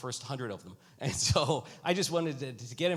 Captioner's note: chuckles